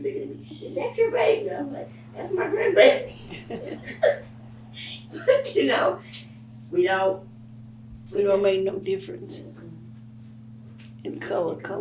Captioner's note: laughs